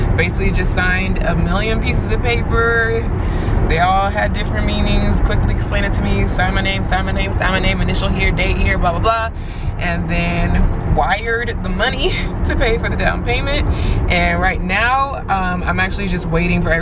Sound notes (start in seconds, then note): 11.3 chuckles nervously